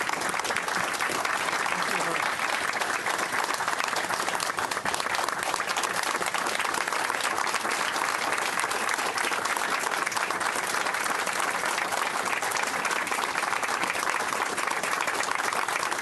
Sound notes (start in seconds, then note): 1.2 clapping